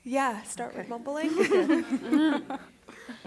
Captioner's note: laughter